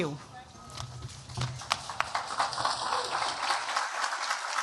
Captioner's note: applause